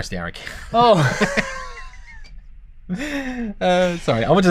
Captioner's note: laughter